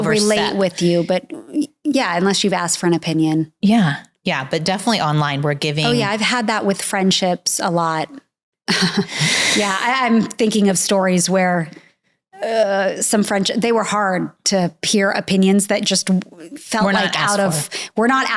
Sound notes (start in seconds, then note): 8.7 chuckling